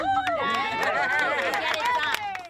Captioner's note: cheering and applause